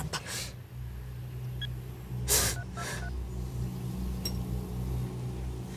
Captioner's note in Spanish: Sonidos al marcar